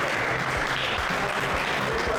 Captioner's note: clapping